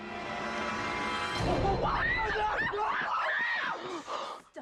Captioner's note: screaming